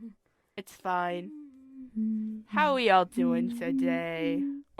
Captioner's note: humming